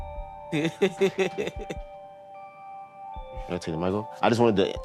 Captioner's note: laughs